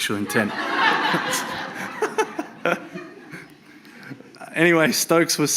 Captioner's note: audience laughs